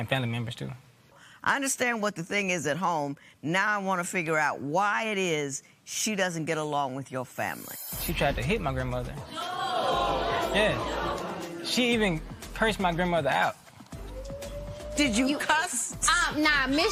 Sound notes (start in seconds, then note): 9.2 spectators murmur